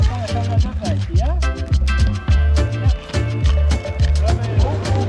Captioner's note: foreign language